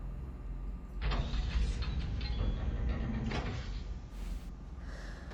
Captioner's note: metal bolt turning